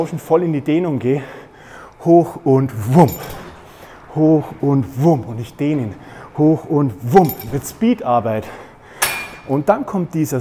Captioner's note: woom